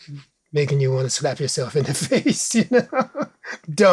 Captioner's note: laughs